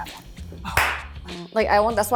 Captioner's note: claps